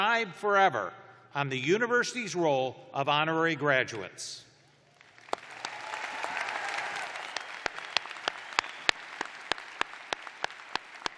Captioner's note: cheers and applause